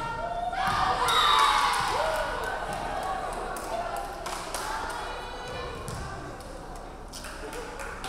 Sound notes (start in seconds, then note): 0.5 crowd cheering; 1.3 referee whistling